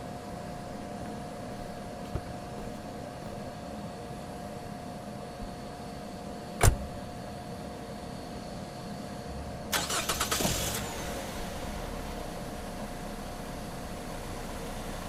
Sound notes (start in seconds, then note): 6.6 car door slams; 9.7 car ignition starts